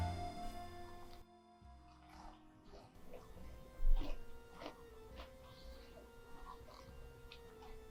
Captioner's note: it's the sound of chewing crispy oatmeal cookies